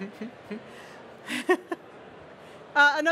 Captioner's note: she laughs